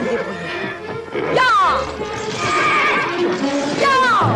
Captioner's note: whinnying